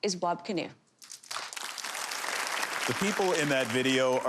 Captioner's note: audience applause